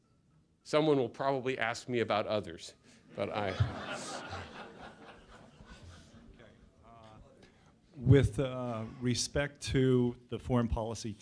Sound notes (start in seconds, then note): 3.2 laughter